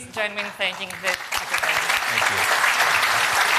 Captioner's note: applause